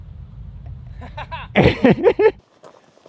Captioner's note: laughing